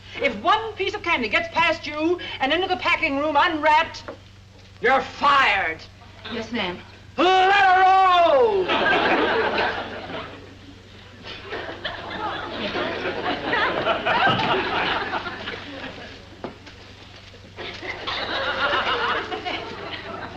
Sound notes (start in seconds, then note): 8.5 audience laughs